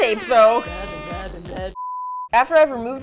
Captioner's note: airhorn